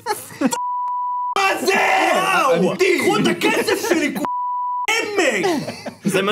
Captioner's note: laughs